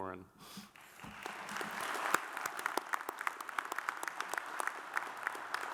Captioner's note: audience applauds